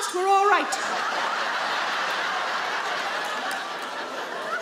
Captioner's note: audience laugh